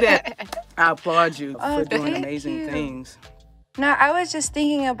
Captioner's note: laughter